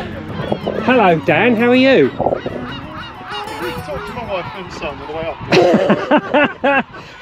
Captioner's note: laughter